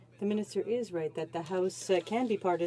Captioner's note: speaking French